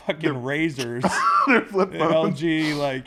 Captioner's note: laugh